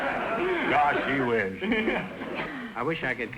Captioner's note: audience laughter; laughing